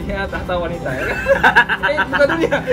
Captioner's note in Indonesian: laugh